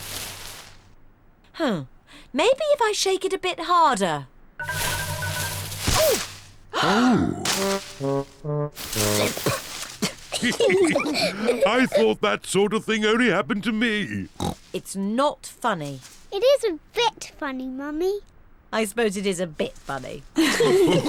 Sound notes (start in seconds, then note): 9.0 coughs; 10.0 all giggling